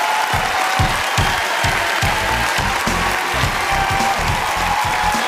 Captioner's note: cheering